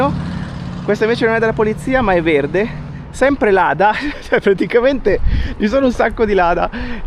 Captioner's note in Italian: risate